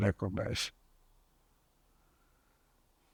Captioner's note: pauses 13 seconds